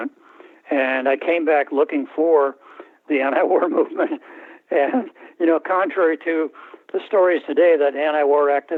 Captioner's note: laughter